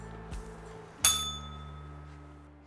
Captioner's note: bell rings